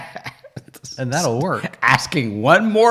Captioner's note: laughing